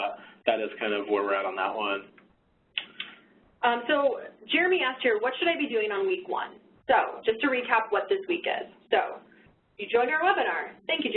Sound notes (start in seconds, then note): none